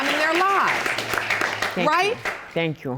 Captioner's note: audience applauding